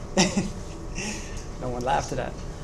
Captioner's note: laughs